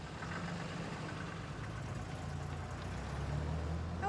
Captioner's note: truck rumbling